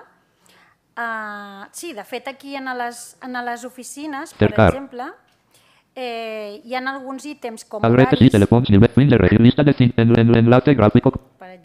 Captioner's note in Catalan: veu del lector de pantalla